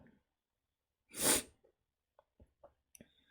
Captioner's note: sniffs